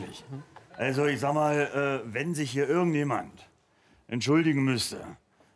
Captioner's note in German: Berliner Dialekt